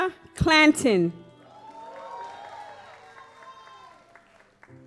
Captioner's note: audience applauds